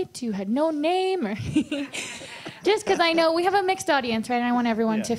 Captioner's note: laughs